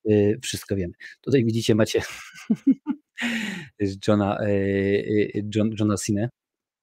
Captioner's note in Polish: śmiech